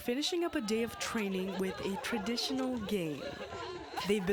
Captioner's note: laughter